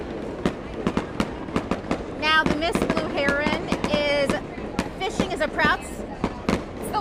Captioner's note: fireworks popping